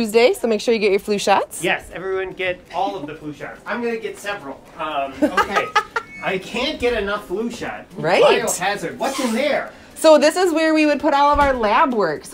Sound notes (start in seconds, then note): 5.1 laughing